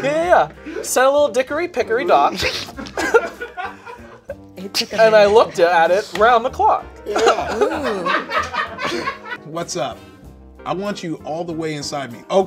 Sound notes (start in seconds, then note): 7.0 people laughing